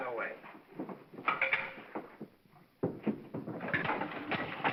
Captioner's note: stick clatters; engine whirring & clattering